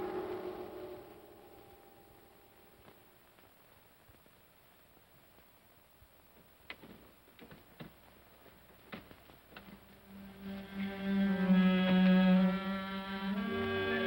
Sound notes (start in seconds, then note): 0.0 haunting music; 6.6 door unlocks; 10.0 ominous music